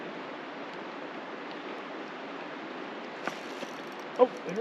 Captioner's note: rod whipping